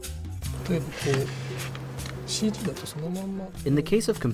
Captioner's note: speaking in foreign language